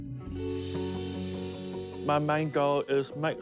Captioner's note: whoosh!